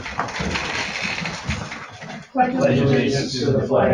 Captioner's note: chairs shuffling